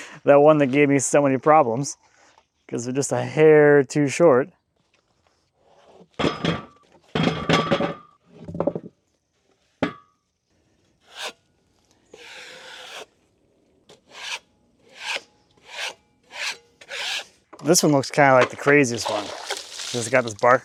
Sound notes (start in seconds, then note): 7.1 metal clanging; 11.5 scraper scrapes